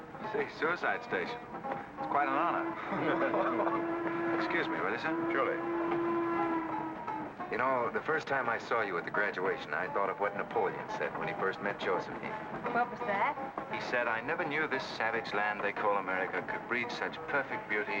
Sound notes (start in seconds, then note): 2.5 men laugh; 5.8 train whistle blows